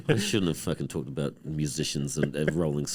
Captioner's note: scoffs